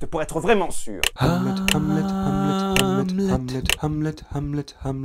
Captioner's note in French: Clics